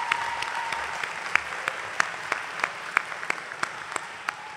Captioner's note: applause